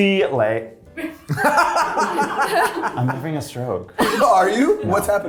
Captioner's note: cast laughing